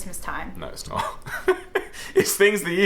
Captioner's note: chuckles